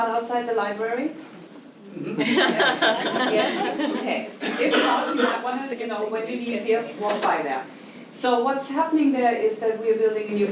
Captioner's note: laughing